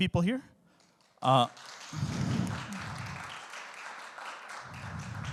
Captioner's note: audience applauding